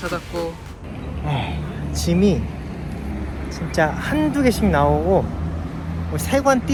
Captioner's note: sigh